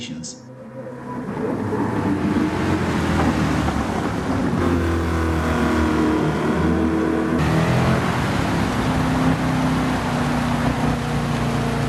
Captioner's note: engines revving, cars noises, rain